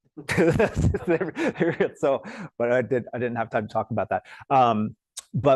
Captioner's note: laughs